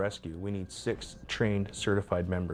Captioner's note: voiceover